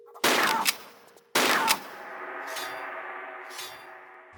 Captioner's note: bam